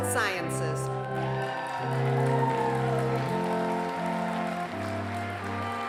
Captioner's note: applause